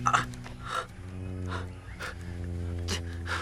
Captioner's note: Rikki groans